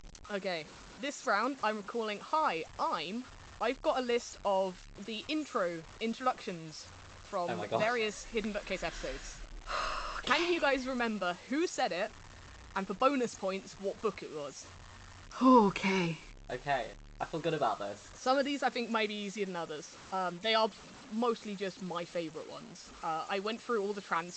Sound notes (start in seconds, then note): 9.6 sighs